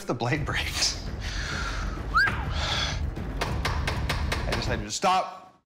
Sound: whistles

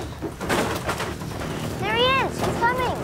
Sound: ATV thudding

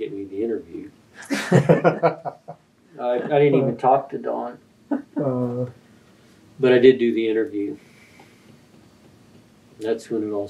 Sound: laughter

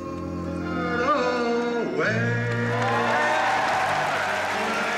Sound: cheering and applause

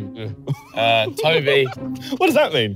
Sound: laughing

